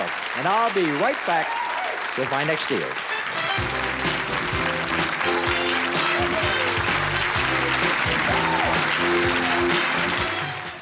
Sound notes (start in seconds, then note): 3.0 theme music; 5.3 applause